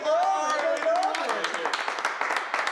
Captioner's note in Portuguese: aplaudindo